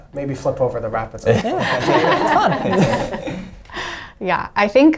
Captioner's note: everybody laughing